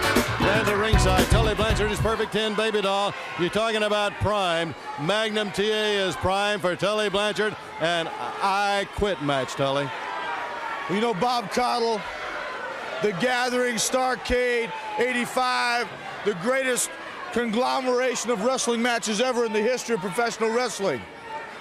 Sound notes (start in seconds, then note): 6.8 crowd cheering